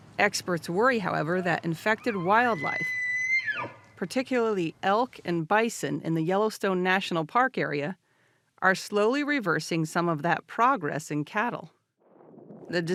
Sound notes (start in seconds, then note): 2.8 elk bugling